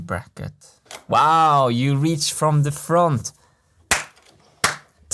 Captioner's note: claps